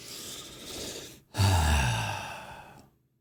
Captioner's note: sigh